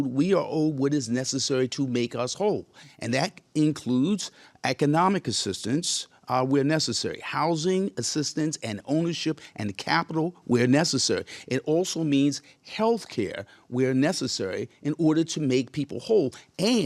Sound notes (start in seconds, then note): none